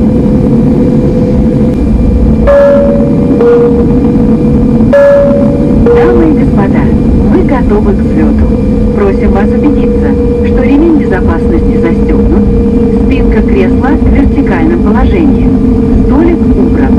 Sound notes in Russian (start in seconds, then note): 2.3 звуковые сигналы